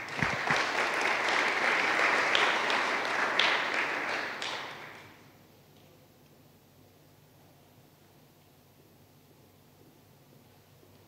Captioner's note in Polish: oklaski